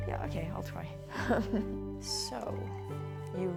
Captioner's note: laughing